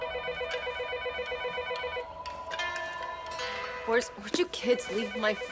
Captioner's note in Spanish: Suena el teléfono